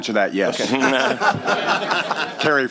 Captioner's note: laughter